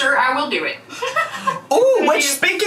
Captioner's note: laughs